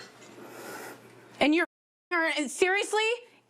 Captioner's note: muted